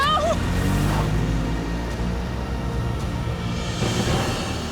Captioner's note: engine revving